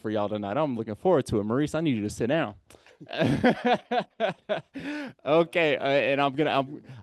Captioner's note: laughing